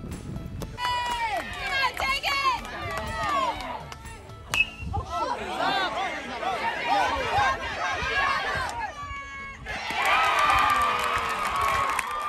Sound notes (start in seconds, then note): 2.4 applause; 2.4 baseball hit